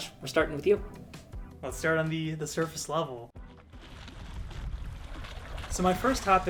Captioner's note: iceberg cracking